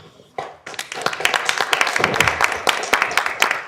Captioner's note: applause